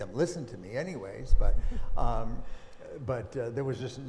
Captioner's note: chuckling